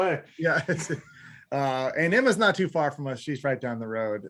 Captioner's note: laughs